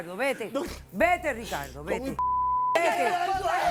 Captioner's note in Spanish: Gritos